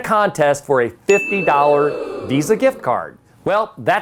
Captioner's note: bell dings; audience exclaiming